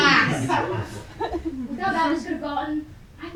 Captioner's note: audience laughing